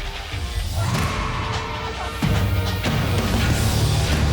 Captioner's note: woman screaming; thrilling music continues